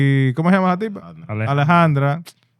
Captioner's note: speaking In Foreign Language